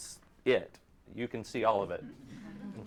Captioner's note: audience laughs